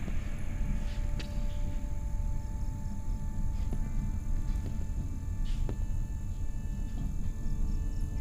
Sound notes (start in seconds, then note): 0.0 crickets chirping; 0.0 light music